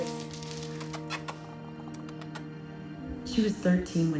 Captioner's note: lip smacking